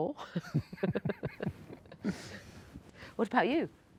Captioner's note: both laugh